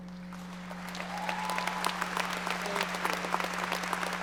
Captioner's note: audience applauding